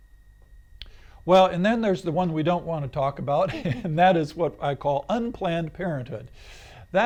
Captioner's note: laughs